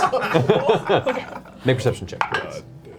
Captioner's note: all laugh